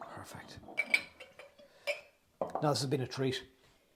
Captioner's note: glass clinks